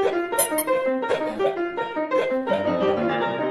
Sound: toy squeaks softly; man yips rhythmically; upbeat piano music

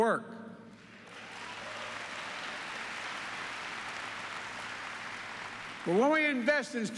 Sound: applause

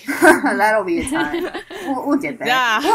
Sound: laughter

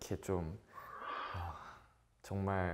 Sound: breathing deeply

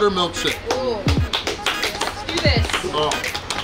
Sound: applauding

